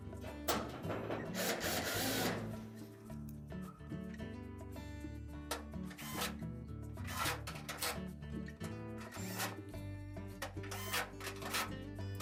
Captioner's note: drilling noise